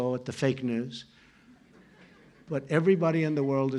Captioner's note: laughter